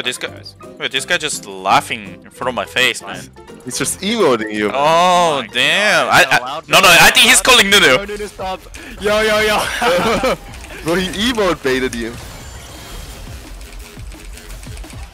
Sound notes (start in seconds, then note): 8.6 laughs